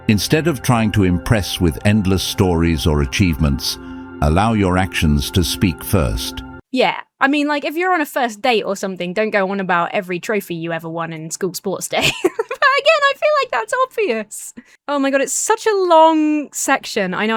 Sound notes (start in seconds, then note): 11.9 laughs